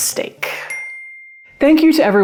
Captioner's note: bell dings